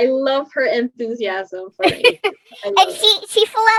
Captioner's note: laughs